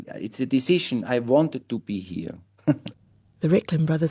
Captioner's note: laughs